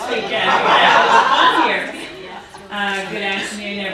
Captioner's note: audience laughing